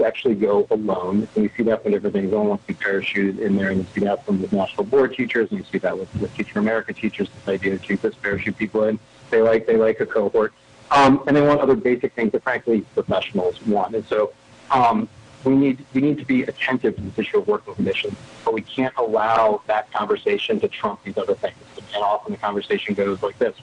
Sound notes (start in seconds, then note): 12.7 audio cutting in/out